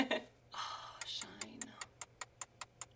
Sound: laughter; clock ticks

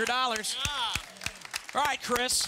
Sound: audience applause

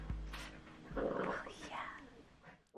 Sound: whispers

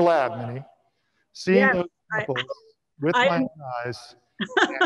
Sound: overlapping chatter

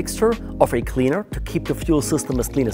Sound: water pouring

